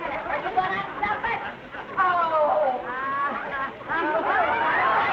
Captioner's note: audience laughing; groaning